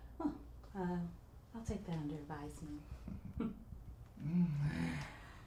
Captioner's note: scoffs